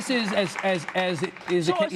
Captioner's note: applause